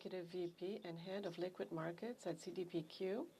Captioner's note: speaking French